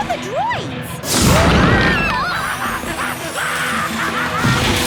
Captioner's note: shouting